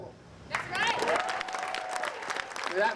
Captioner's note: applause